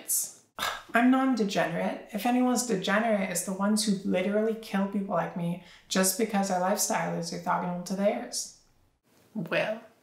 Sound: gasp

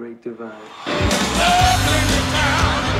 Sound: crowd cheering

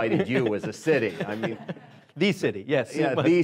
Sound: laughing

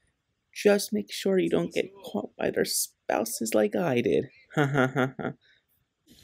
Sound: nervous laughter

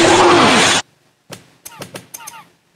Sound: also slapping keyboard and wheezing; slapping keyboard and wheezing

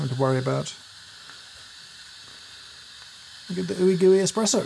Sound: espresso machine hissing

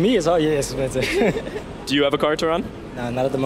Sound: laughing

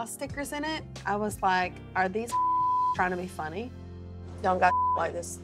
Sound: beep

